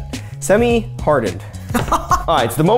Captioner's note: laughs